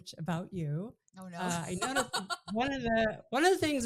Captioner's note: laughs